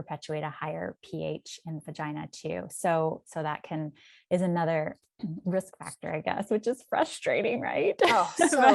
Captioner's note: chuckles